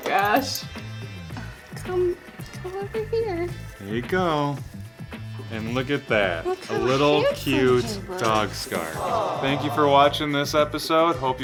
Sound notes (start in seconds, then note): 7.9 audience groans